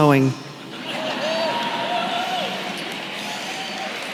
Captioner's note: applause